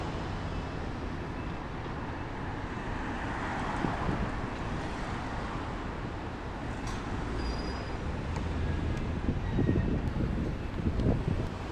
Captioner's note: sounds of Vehicles Driving